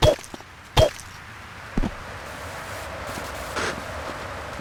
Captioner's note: tires screeching